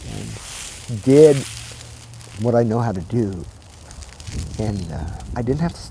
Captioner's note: fire rustling